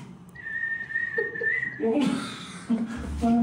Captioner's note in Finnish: viheltää